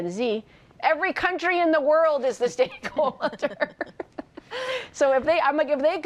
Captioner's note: laughs